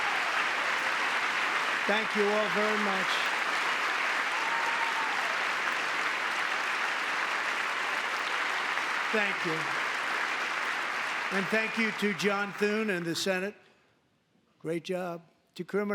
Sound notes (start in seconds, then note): 0.0 applause; 11.3 applause